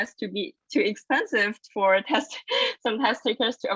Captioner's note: laughs